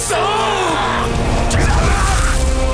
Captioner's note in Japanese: 悲鳴